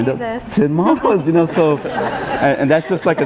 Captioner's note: laughing